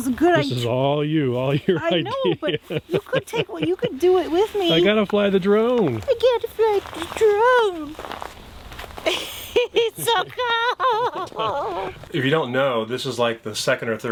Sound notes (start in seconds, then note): 7.5 thumping footsteps; 10.7 chuckles